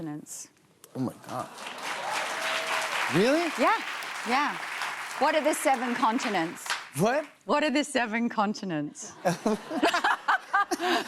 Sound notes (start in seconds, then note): 1.2 cheers and applause; 9.2 laughter